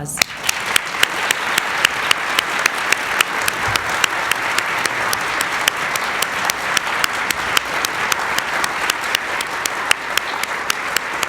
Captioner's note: applause